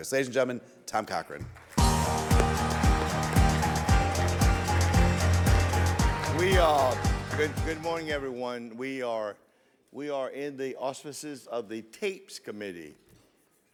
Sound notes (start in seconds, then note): 1.5 audience applauds; 1.8 bright music